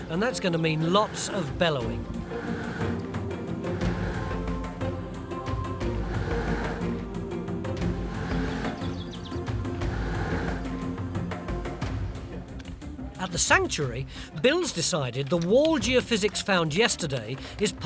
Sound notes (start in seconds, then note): 3.0 cheerful music; 4.4 bellow puffing